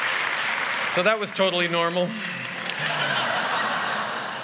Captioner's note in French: Rires